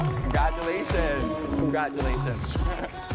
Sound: cheers and applause

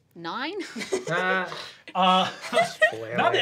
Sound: laughs

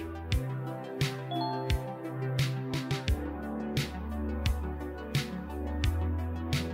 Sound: lively music; notification dinging

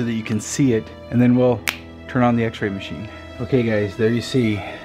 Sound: snaps

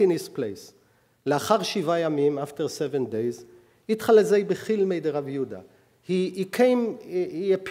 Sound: speaking hebrew

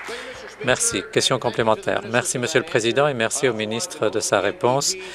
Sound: applause

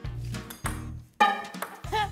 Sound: clang

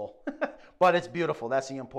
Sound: chuckles

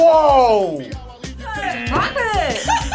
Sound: laughs; buzzer buzzing

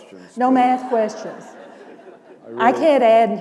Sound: laughter

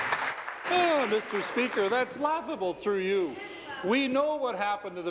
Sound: applause

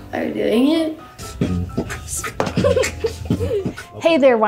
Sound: laughing

